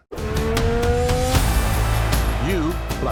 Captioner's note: racing car engine roaring